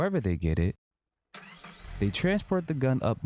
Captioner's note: engine rumbling